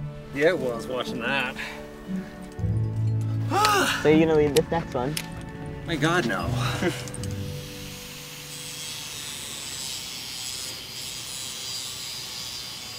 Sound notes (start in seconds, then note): 3.5 sighs